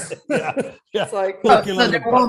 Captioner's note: all laughing